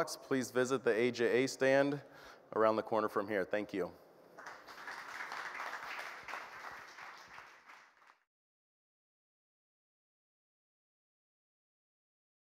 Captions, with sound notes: please visit the AJA stand around the corner from here. Thank you. [APPLAUSE]